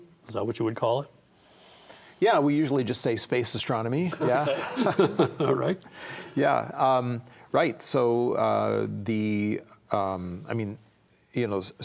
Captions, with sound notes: Is that what you would call it? - Yeah, we usually just say space astronomy, yeah. [all laugh] - All right. - Yeah, right. So the, I mean, you know,